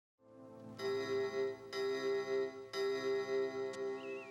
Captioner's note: clock chiming